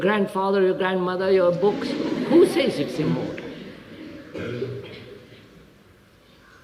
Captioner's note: laughter